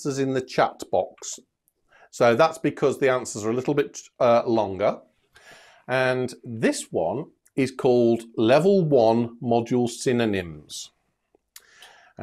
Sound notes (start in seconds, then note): none